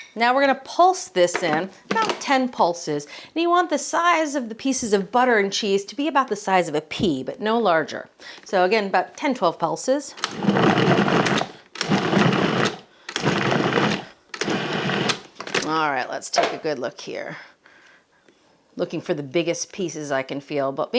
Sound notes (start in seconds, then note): 10.4 food processor whirring